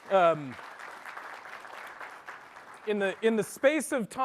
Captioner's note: applause